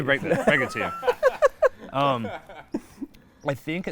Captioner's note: laughing